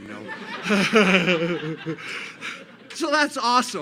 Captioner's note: laughter